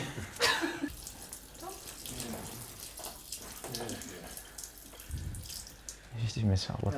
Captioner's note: peeing noises